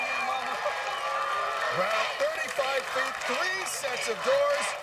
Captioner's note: cheers and applause